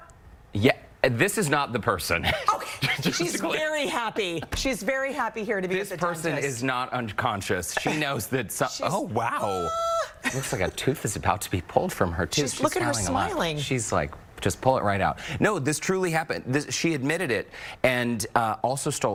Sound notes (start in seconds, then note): 7.7 laughter